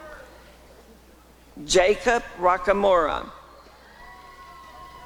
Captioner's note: applause and cheering